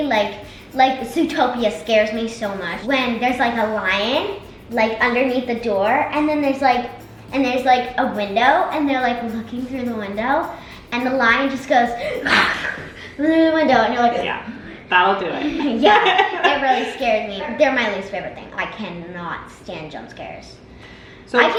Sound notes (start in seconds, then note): 12.3 imitates lion; 15.2 laughs